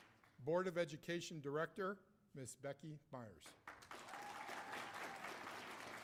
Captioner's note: cheers and applause